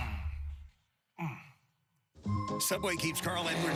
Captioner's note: comical crashing/ body thumping/groaning sounds